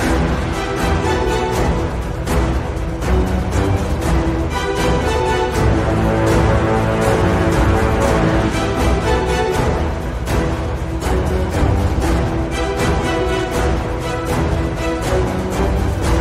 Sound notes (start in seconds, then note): 5.1 war Horn; 13.1 intense Action Music